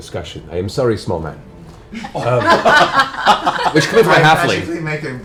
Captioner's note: laughter